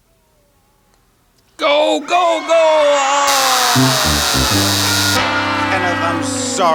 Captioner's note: buzzer rings